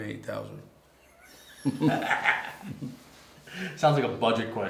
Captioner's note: laughter